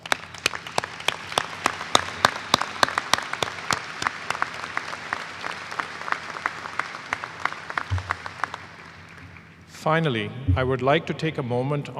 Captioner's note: applause